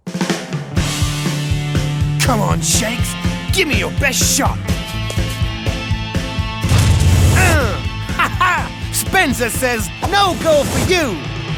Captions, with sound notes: (upbeat rock music) - Come on, Shanks, give me your best shot! (ball whooshing) (grunting) - Ha ha, Spenza says no goal for you!